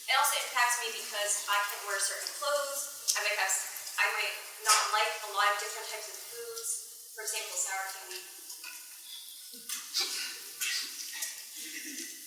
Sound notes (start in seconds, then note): 9.4 laughs